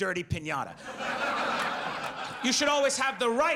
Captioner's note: audience laughs